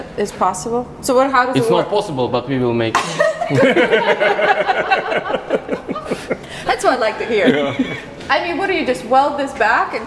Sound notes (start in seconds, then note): 3.0 laughing